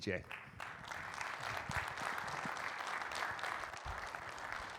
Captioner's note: audience clapping